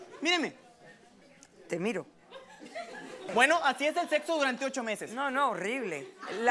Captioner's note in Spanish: Risas